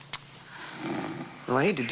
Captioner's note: Seth snoring